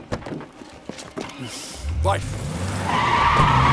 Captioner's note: engine starts